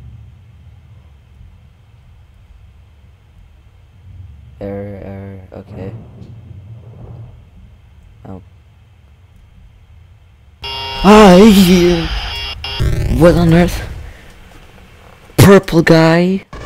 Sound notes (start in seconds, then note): 10.6 Purple guy jumpscare